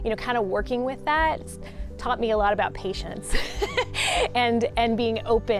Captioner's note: laughs